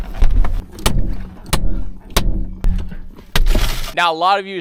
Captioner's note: hammer banging window; shoe banging window; glass shattering